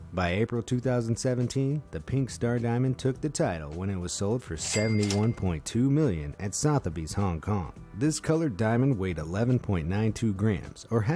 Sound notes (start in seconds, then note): 4.6 cash register ringing